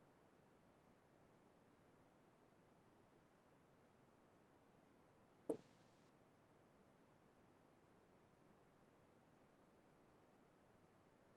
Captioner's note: silence